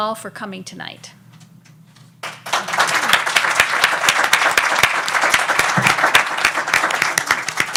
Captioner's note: audience applauds